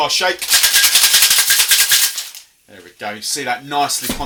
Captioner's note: ice shaking